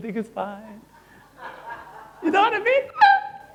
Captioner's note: audience laughing